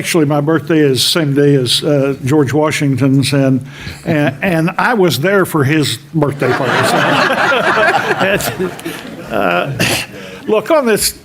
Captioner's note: laughter in the room